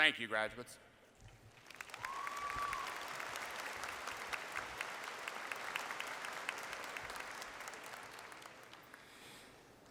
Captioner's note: applause